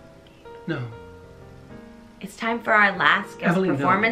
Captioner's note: gasps